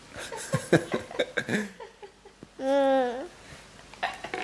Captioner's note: laughter